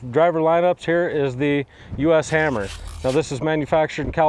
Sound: words whooshing

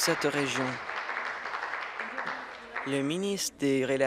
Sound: applause

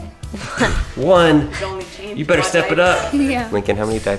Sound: laughs

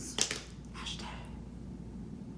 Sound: whispering

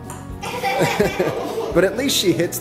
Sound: laughing

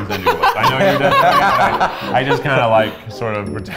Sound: group laughing

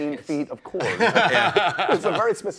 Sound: laughs

